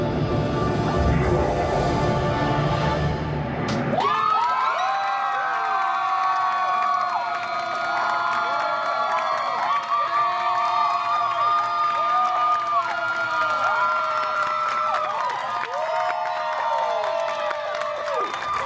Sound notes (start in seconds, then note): 1.1 Dormammu screaming; 3.8 guests cheering and applauding